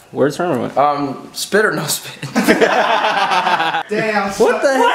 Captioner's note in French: Rires